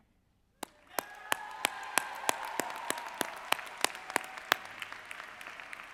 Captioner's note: applause; cheering